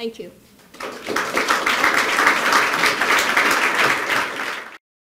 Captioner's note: applause